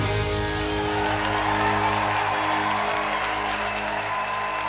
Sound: cheers and applause

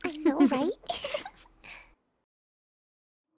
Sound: giggles

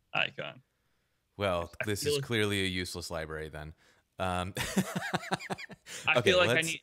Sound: laughing

